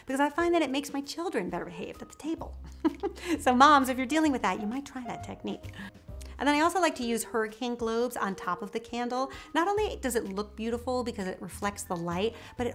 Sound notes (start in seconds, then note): 2.7 laughs